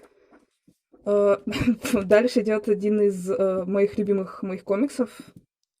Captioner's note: giggle